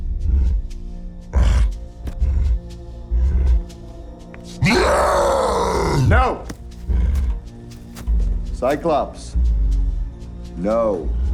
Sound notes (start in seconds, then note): 4.6 cyclops roars